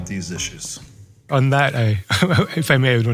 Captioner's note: laugh